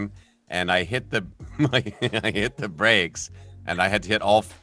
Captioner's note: laughs